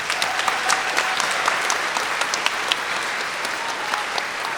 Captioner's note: everyone applauding